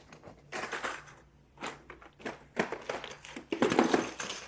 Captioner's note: items rattling